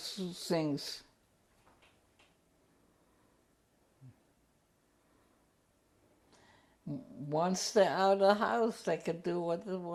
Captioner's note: pauses for 7 seconds